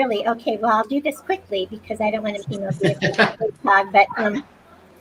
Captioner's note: laughs